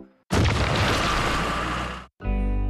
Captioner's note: rocks Clatter